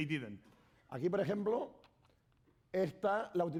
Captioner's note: speaking spanish